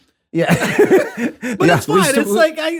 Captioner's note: laughter